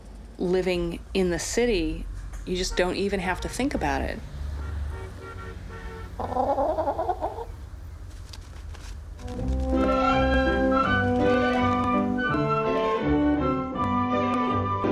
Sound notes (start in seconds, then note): 4.5 horn honking; 6.1 chicken clucking